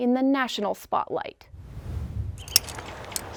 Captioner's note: air whooshing; birds chirping; gear clanging